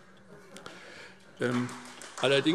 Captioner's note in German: Beifall SPD